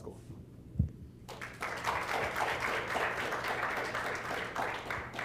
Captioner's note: applause